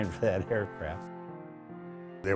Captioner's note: laughs